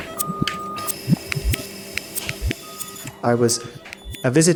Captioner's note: distorted audio fizzling; heart monitor beeping